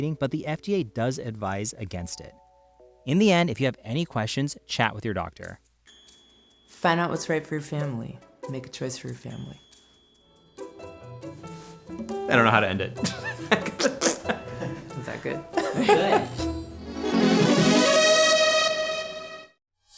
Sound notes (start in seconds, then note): 13.0 laughs; 13.6 squirt sounds; 16.0 laughs; 16.8 outro music begins